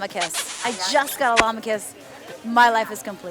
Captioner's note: kissing sound